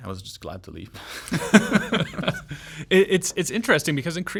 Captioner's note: laughs